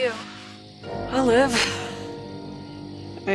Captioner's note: laughs